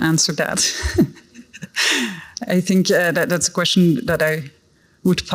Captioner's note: laughs